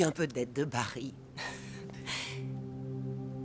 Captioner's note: chuckling